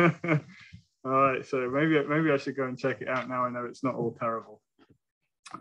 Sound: laughter

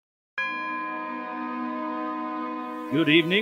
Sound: bell ringing

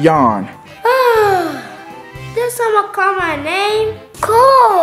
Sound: yawns

